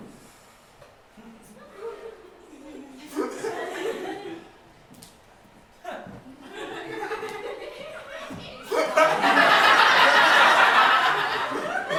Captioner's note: audience laughter